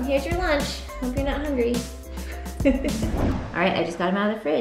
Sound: laughs

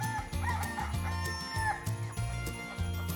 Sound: rooster crows

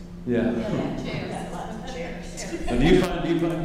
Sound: laughing

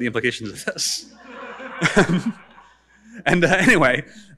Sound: audience laughing

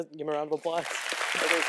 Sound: applause

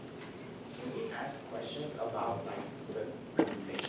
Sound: faint chatter

